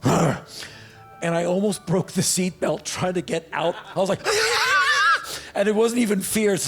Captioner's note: growl; screeches